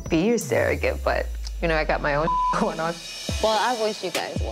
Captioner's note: beep